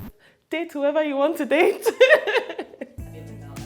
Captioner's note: laughs